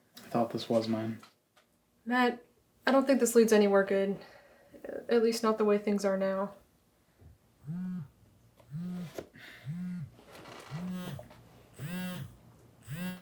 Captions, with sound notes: I thought this was mine. Matt, I don't think this leads anywhere good, at least not the way things are now. (phone buzzing)